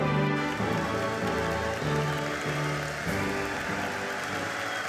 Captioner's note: audience applauding